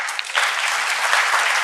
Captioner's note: audience applause